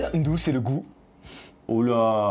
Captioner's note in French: souffle du nez